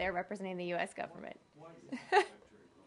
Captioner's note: laughter